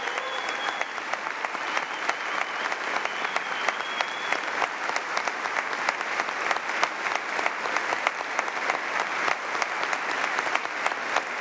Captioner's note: applause; cheers and applause